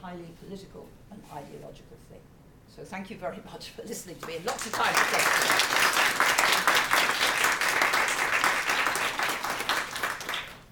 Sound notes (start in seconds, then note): 4.2 applause